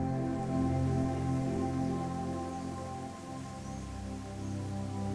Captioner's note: birds chirping; water rushing